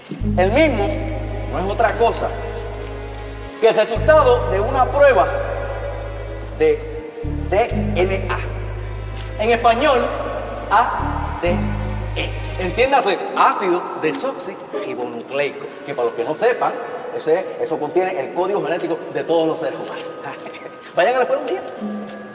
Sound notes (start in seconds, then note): 20.4 laughs